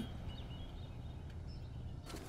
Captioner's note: Birds chirping